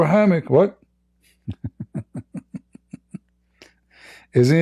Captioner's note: Ketawa